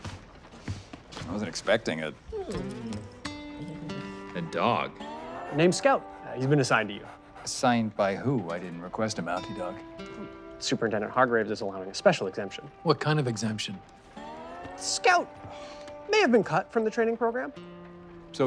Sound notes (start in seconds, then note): 2.7 dog whines; 2.7 guitar plucking